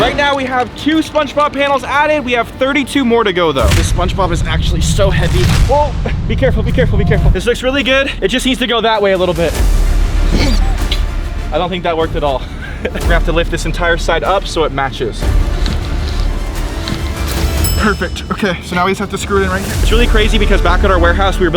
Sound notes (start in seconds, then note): 9.6 intriguing dramatic music; 10.3 toy squeaking; 10.3 grunts; 12.8 laughs; 15.3 intriguing dramatic music; 17.6 bell dings